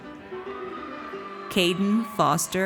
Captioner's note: audience cheers